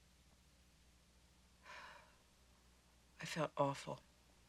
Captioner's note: sighs